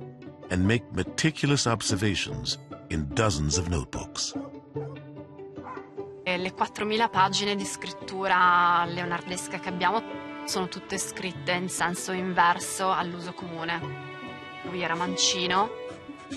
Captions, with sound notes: and make meticulous observations in dozens of notebooks. [Dog barks]